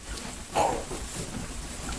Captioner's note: grunt